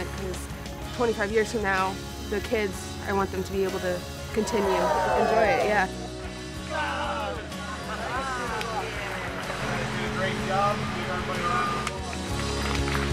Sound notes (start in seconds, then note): 6.3 applause and Cheers; 11.6 clapping